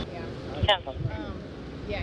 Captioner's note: radio chatter